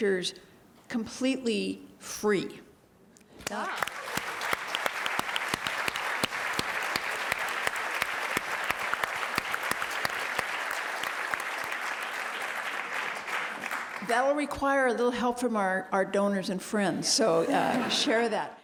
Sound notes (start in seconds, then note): 3.8 applause; 17.3 laugh